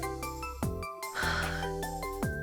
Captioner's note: exhales